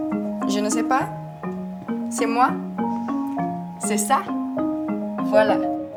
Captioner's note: speaking in foreign language